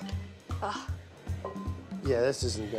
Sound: sighs

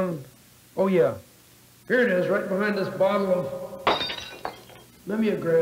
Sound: glass shattering

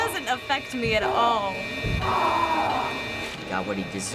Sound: patient screams

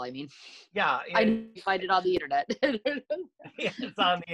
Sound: laughs

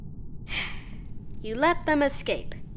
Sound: sigh

